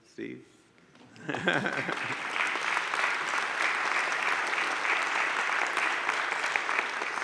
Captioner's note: laughs; audience claps